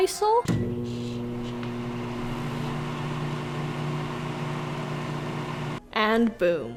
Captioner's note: more microwave noises